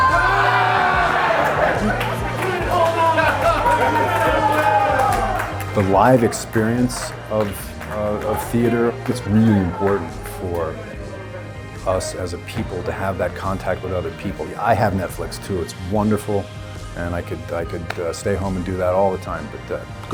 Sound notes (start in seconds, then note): 1.7 crowd laughter